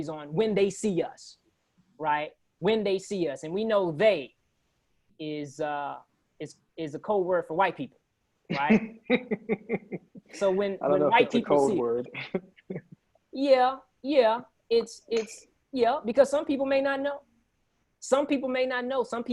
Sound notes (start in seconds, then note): 8.5 laughs